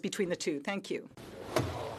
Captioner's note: speaking French